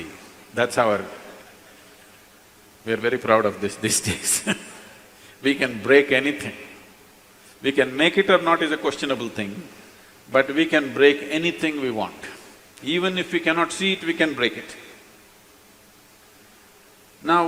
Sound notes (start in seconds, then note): 4.0 laughs